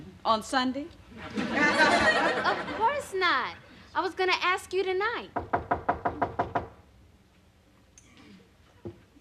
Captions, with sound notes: ON SUNDAY? OF COURSE NOT. I WAS GOING TO ASK YOU TONIGHT. [knocking on door]